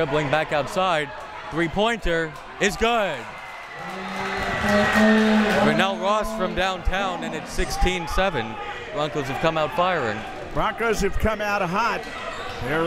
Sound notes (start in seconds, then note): 3.8 crowd members cheering